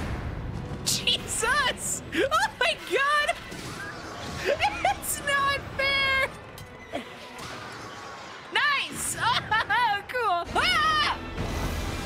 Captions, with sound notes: [Laughing] Jesus! [Laughing] Oh, my God! [Laughing] It’s not fair! NICE! Ohoho, cool! [Yelling]